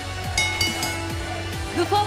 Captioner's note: bell ringing